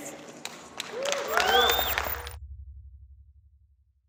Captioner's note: everyone clapping